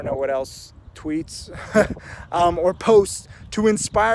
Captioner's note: laughs